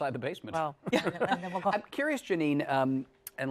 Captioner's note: chuckle